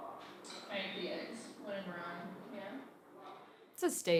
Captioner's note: speaks faintly